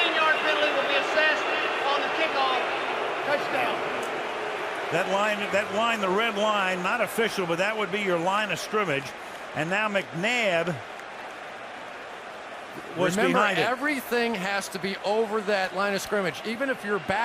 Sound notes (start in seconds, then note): 4.4 booing